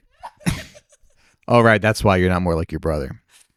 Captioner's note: laughing